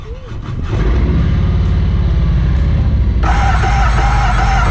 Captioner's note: motorcycle engine revving; engine squealing